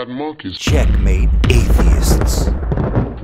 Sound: in a Dramatic Voice; thunder sounds

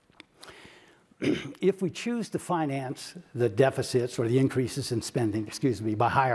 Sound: cough

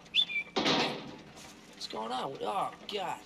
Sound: Marty whistling

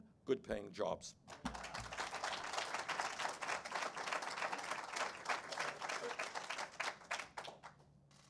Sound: applause

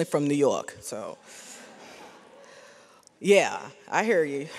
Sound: audience laughs

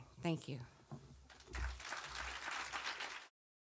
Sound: audience clapping

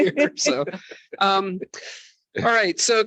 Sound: chuckles

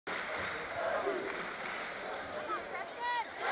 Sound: crowd cheering

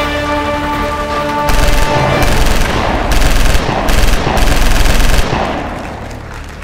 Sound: gunshots; applause

